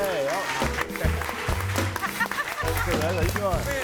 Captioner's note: audience applauding